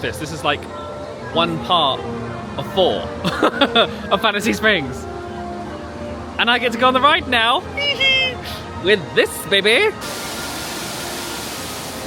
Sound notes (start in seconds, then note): 3.2 laughing